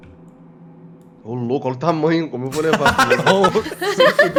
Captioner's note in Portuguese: Risadas